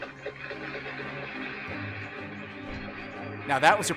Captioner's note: audience applauding